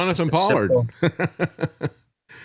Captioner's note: laughing